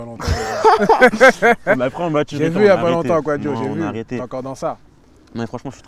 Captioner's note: laughs